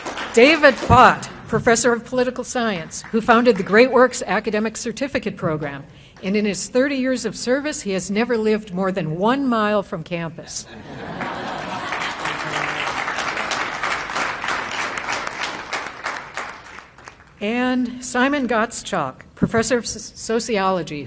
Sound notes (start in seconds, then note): 11.0 applause